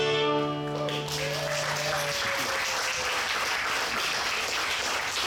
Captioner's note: audience applauds and cheers